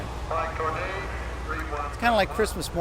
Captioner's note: launch site PA blares